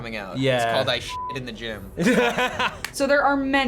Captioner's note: laughs